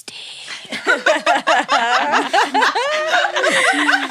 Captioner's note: women laughing